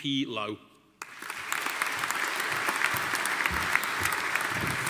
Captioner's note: audience applauding